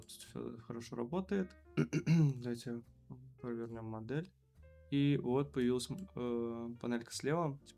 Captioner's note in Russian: откашливается